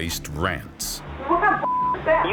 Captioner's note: beep